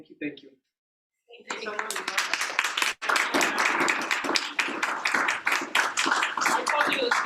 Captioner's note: clapping